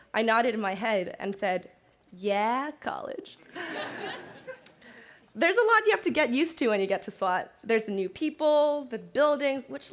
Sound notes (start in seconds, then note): 3.5 crowd laughing